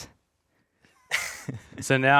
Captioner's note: chuckling